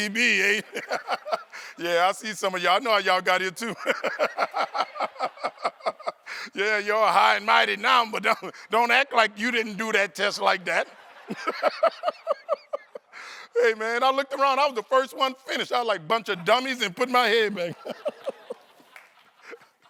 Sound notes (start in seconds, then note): 3.6 laughter